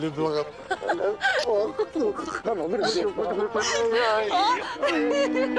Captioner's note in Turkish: Gülüyorlar